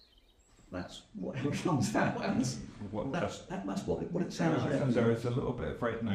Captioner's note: Sound of Yellowhammer's call; laughs